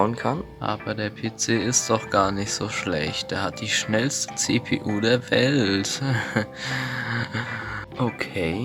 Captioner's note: desperate laughter